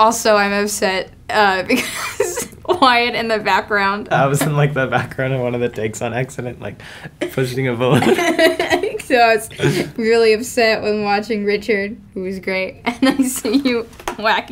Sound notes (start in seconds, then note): 1.8 laughs; 7.9 both laugh; 13.9 laughs